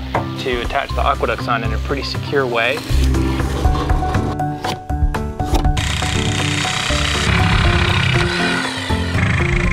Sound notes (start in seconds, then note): 5.7 saw buzzing